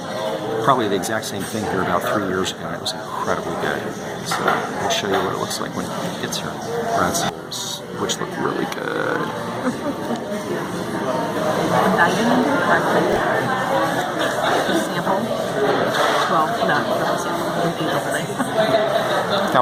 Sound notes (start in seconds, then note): 9.6 chuckles